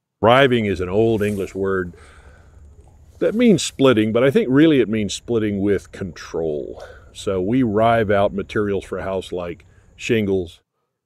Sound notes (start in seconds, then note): none